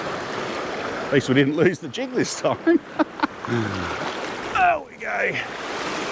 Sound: chuckle

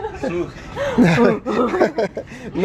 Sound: laughs

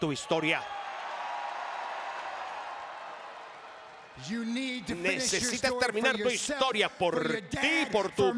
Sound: applause

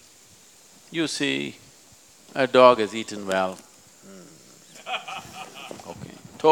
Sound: laughter

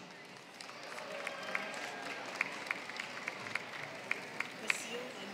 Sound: applause

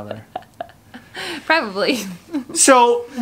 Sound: laughs

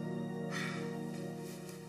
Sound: sighs

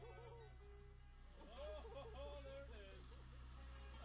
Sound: slow instrumental music; voiceover; slow instrumental music

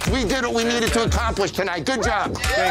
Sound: cheers

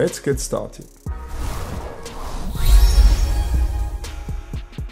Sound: logo whooshing

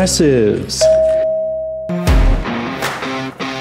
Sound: bell dings; intro music

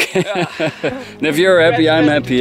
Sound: both laughing

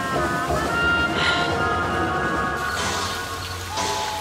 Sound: sighs; crickets chirp, night birds cry

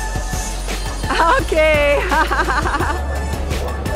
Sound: laughs

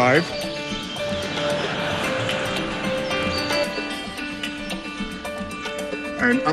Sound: laughter

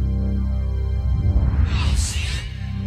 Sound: whispered

